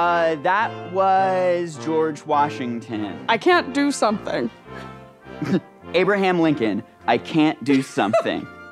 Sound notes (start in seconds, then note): 7.7 laughs